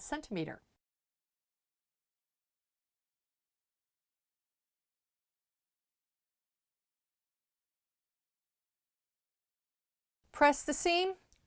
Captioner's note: no Sound Present